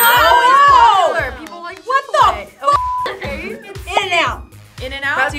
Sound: beep

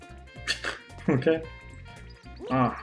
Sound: chortles

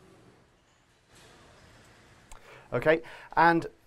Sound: silence

